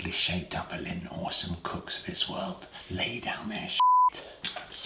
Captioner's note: beep